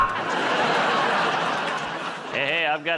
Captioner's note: buzzer; laughter